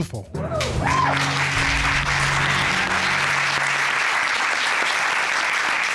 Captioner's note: cheers and applause